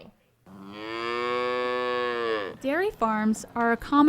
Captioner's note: cow moos